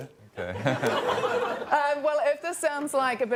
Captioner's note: laughter